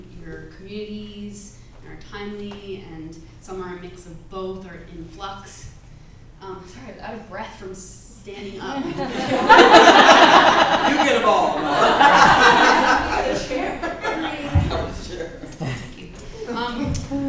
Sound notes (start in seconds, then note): 13.2 laughter